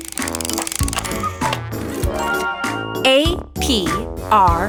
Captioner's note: mechanical whirring